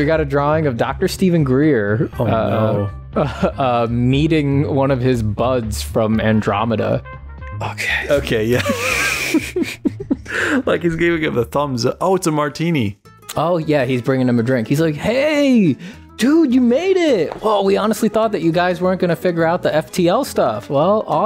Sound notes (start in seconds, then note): 8.5 laughter